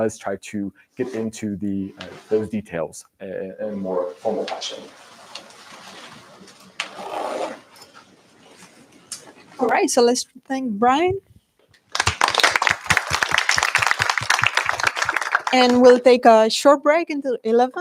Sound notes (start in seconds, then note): 11.8 applause